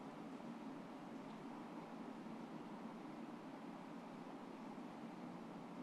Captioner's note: film static humming continues